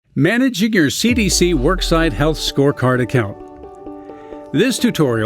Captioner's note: voiceover